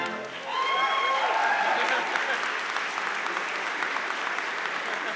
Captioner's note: crowd cheering and applauding